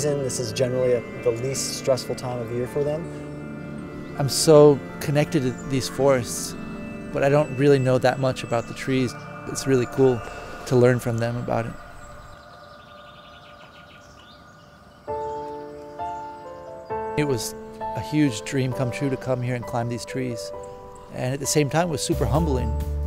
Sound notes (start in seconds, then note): 12.4 birds chirping; 14.8 soft music